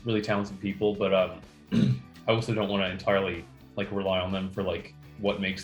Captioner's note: clears throat